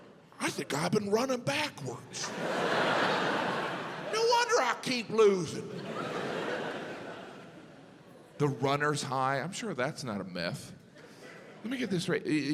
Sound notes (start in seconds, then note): 5.6 audience laughs